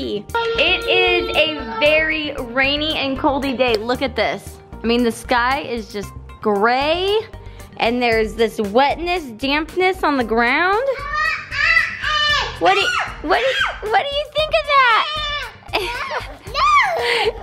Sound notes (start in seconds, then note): 11.0 vocalizing and yelping; 15.7 chuckles